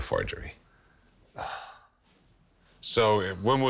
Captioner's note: sighs